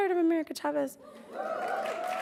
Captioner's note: hoots, cheers; applauds; laughs